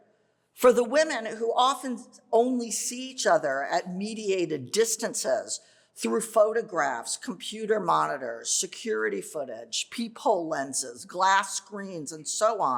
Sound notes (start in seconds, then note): none